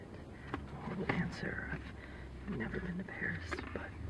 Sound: rehearsing lines under his breath

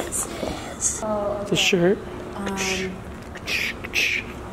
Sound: humming

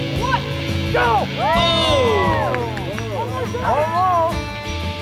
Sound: group applauding

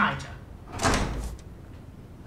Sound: door slams

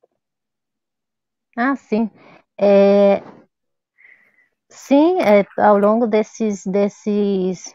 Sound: speaks portuguese

